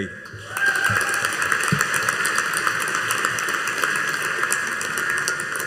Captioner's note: audience cheering and applauding